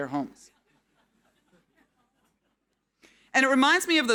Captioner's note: audience laughing